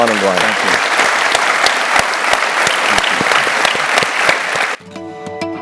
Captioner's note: applause